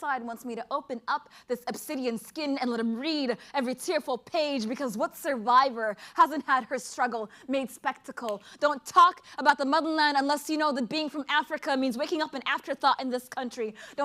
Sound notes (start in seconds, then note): none